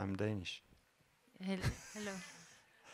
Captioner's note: laugh